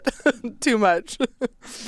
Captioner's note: laughs